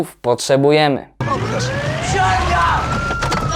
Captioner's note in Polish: syreny policyjne